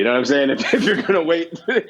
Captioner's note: laughs